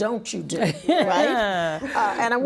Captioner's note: laughing